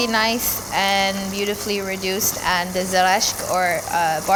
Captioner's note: foreign language